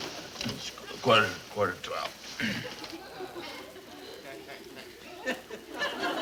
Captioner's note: audience laughs